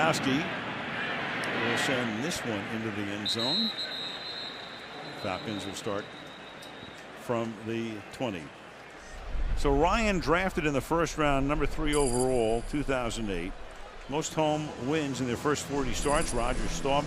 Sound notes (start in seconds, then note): 3.2 whistle